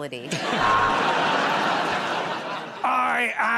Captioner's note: buzzer buzzes